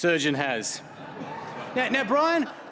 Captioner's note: laughter